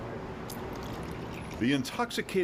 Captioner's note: liquid pours